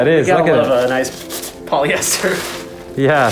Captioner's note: chuckles